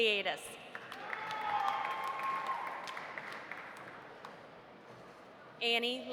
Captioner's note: audience applauding; audience cheering